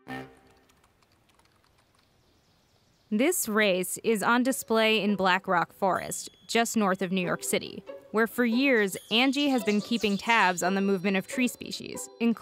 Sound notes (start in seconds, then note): 1.6 birdsong